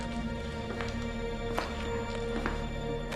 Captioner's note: APPROACHlNG FOOTSTEPS